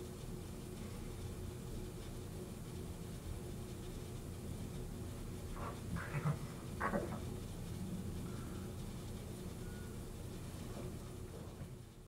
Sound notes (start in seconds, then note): 5.9 laughing